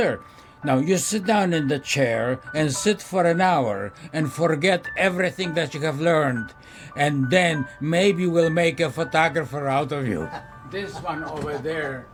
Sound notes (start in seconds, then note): 10.0 laughing